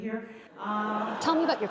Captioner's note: laughter